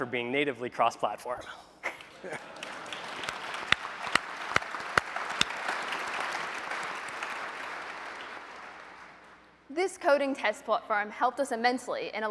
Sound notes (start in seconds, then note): 1.9 applause